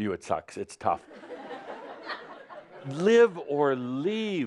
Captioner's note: laughter